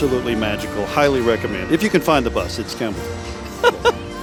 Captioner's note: chuckling; holiday music